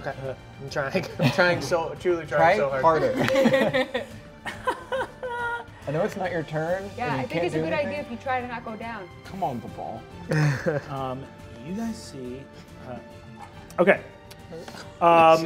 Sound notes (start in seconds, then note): 4.1 players laughing